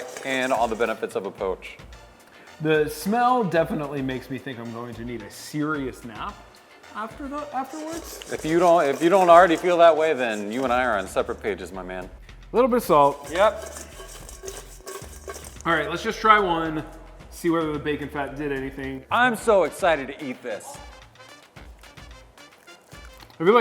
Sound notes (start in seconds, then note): 12.9 chicken clattering in bowl; 20.7 upbeat music